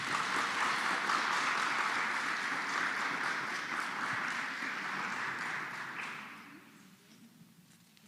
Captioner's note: applause